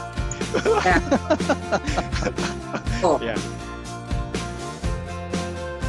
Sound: more Laughter

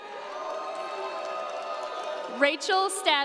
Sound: audience cheering

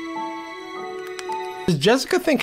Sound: box opening sound

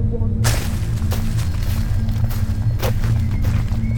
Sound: leaves crunch

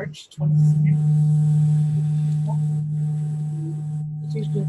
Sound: static drowns out sound

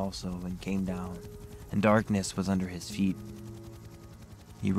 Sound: helicopter whirring

